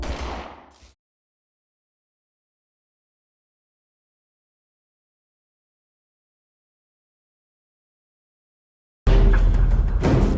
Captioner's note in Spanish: Disparo